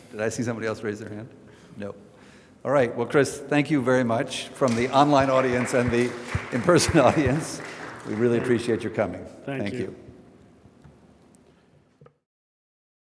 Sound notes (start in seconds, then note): 4.6 audience applauds